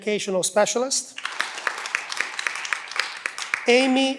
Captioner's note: cheering